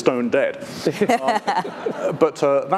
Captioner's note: audience laughing